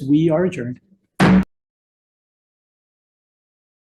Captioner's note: gavel pounds